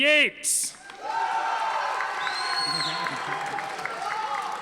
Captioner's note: audience applauding